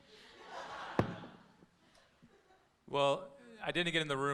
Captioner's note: laughter